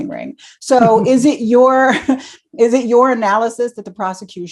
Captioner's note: laughs